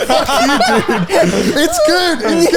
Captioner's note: all laughing